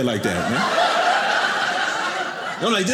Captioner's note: audience laughing